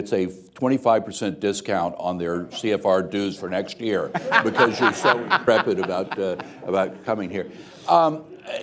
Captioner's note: laughter